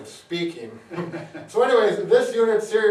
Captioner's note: laughing